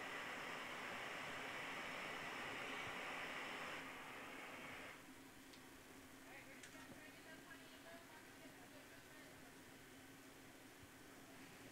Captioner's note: sound of blowtorch